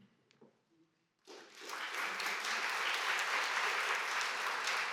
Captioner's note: applause